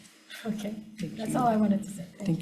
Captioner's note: laughs